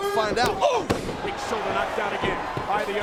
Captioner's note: Tazz exclaims